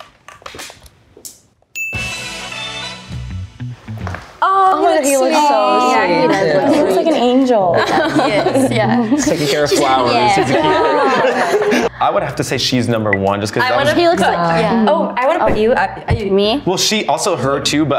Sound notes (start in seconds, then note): 2.0 exciting music; 7.6 laughs; 11.2 everyone laughs